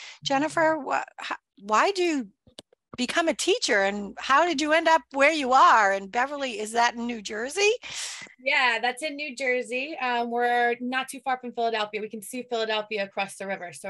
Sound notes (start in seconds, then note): none